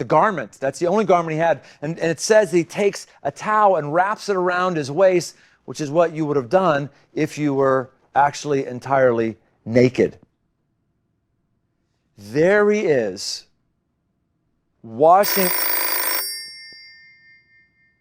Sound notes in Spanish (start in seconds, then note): 15.2 suena el teléfono